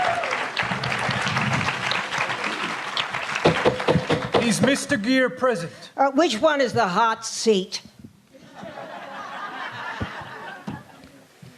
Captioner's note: applause